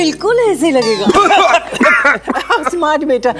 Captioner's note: Coughing